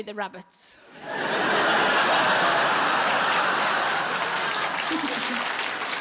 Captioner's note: audience laughing and applauding